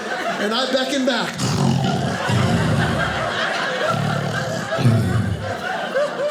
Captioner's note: audience laughing; snoring